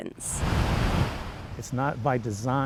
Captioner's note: waves crashing